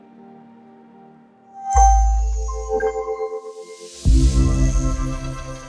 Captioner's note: electronic chimes